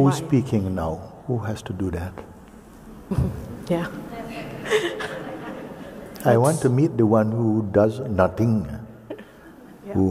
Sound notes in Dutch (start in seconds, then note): 4.6 knikt en lacht